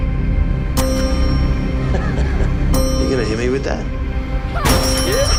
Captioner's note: laughs